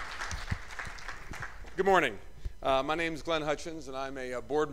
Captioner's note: applause